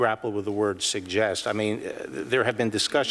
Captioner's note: none